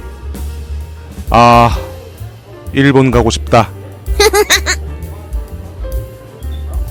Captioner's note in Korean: 웃음